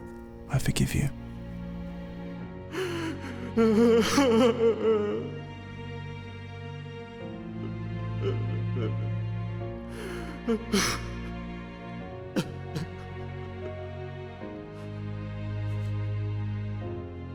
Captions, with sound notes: I forgive you. (crying)